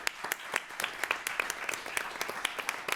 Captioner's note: applause